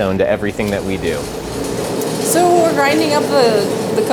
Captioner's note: machine whirring